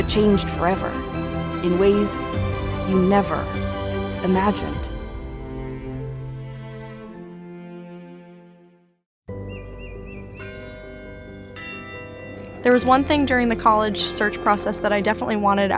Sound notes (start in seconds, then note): 5.3 gentle music; 9.3 birds chirping; 12.3 bell ringing